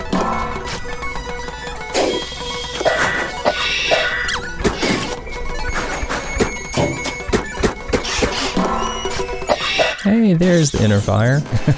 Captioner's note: haha